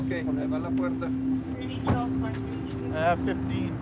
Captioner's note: officers speaking Spanish